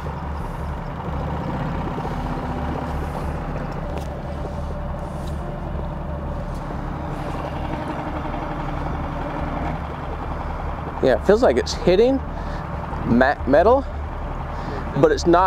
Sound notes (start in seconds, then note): 1.8 boat spluttering; 1.8 dramatic music